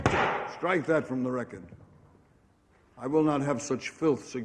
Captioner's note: gavel thunks